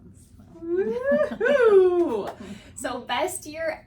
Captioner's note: both laughing